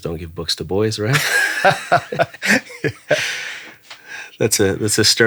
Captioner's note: both laughing